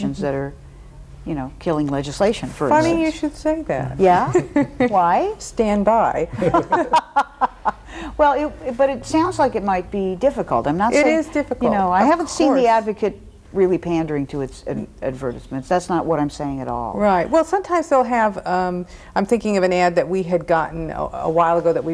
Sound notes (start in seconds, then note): 4.0 laughs; 6.3 everyone laughs